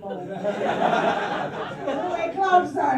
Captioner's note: laughter